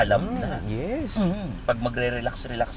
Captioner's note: grunts